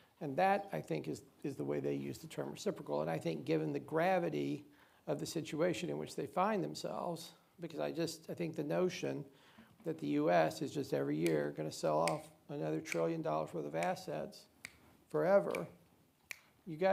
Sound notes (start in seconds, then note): 12.0 snaps; 16.0 snapping